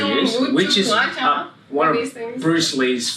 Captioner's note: speaking foreign language